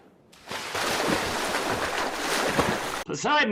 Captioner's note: splashing